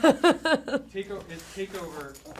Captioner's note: laughter